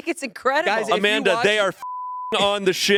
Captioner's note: beep